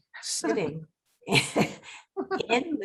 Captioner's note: laughing